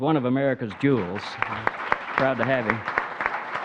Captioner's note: audience clapping